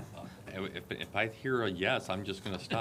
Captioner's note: laughte